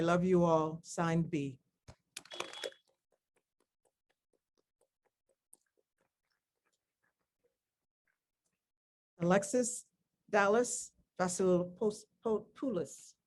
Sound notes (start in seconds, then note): none